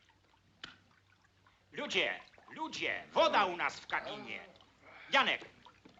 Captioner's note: Falando em língua estrangeira